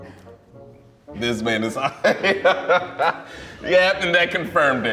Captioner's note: laughs